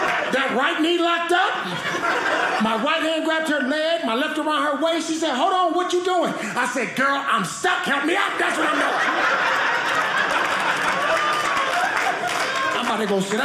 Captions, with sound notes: That right knee locked up. My right hand grabbed her leg. My left around her waist. She said, "hold on, what are you "doing?" I said, girl, I'm stuck. Help me up. That's what I'm doing. (audience laughing) (audience applauding) I'm about to go sit down.